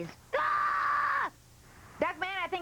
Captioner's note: screaming